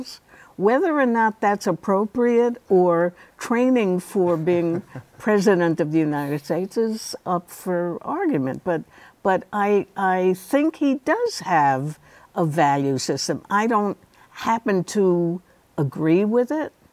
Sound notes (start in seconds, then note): 4.2 laughs